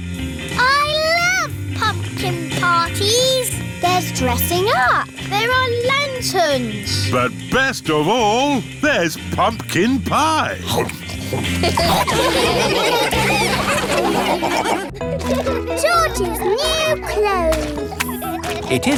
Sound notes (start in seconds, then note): 10.6 snorts; 10.6 all laughing